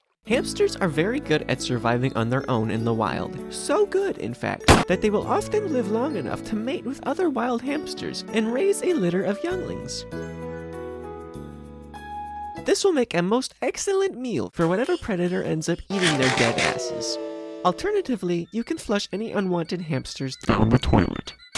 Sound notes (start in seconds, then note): 4.7 gunshot